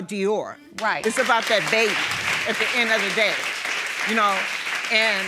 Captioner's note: audience applauding